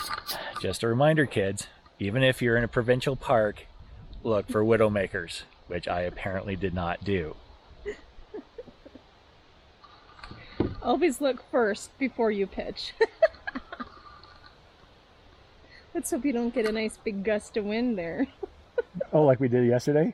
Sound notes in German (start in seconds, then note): 14.0 lacht